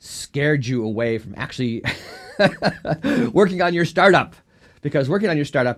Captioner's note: laughs